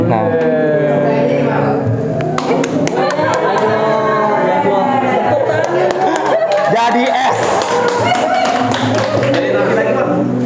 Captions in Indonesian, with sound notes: Nah! Ih! [Applause] [Laugh] [Applause] Bagus / Keren Jadi es [Applause]